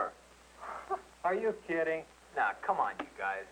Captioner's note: chuckles